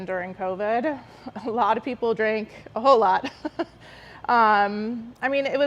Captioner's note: laughing